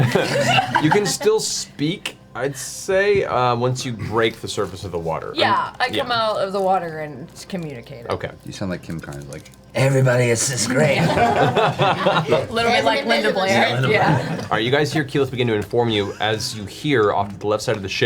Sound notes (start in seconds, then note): 11.0 all laugh